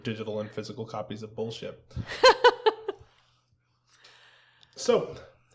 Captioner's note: laughter